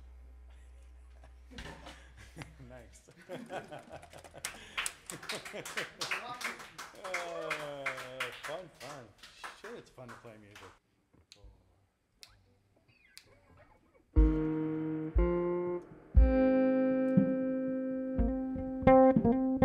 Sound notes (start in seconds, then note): 3.0 chuckles; 5.1 louder chuckles